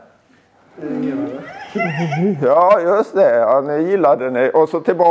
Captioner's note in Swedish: skrattar